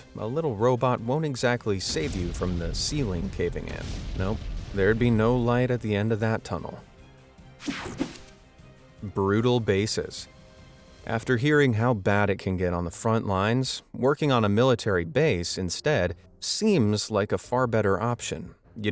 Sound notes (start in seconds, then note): 7.7 air whooshing